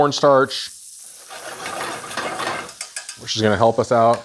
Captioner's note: pan rasps and clutters